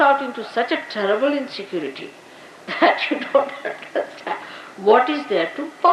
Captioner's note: Shri Mataji laughing